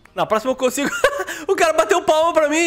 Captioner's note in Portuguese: risos